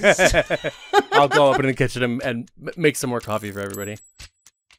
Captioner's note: laughing